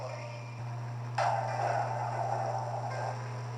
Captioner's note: thunder Rumbling